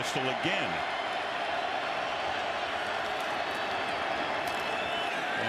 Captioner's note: cheers